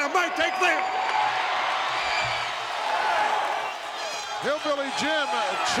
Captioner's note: audience cheering